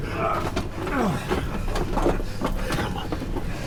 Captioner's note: Captain Moss grunting